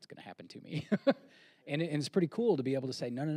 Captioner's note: laughs